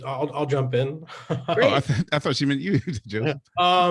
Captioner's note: laughs